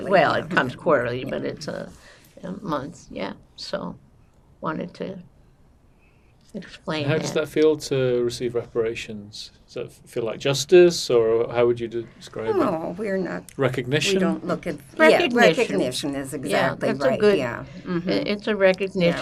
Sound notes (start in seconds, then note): none